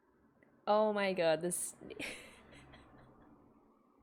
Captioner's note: laughs